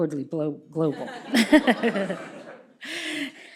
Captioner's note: laughter